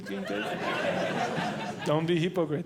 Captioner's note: audience Laughing